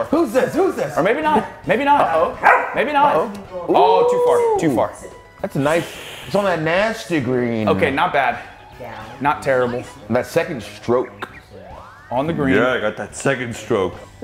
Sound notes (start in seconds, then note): none